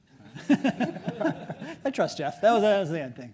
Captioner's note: audience laughs